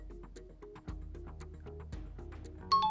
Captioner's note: times up ring